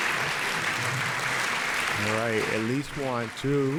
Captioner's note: audience applauds